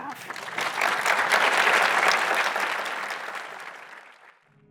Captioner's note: audience applauding